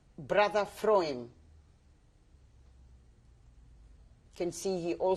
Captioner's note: pauses for 3 seconds